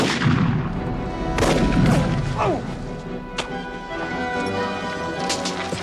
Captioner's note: gunshot booms